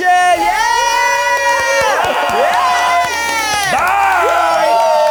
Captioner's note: all cheering